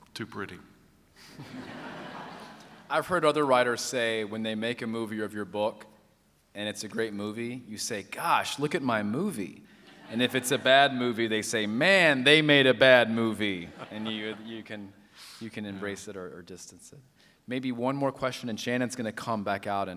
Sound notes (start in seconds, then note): 1.3 laughter